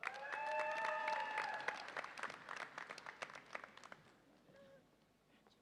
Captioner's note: audience applauds and cheers